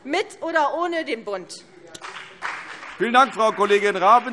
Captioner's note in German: Beifall CDU und BÜNDNIS 90/DIE GRÜNEN